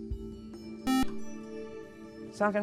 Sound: buzzer

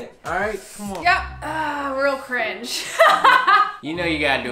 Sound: laughs

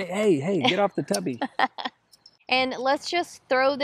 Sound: chuckles

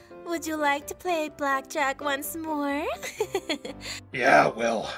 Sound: giggling

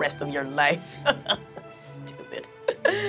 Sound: chuckles

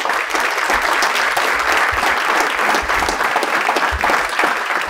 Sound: applause

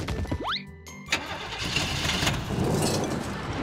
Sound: car engine starting

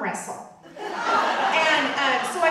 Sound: audience laughing

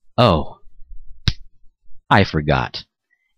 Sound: smacks forehead

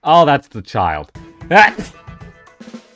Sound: sneeze

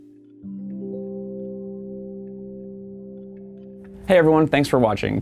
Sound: quiet electronic tones

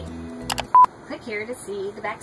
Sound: beeping

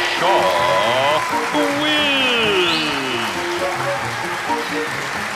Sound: audience applauding; suspenseful music

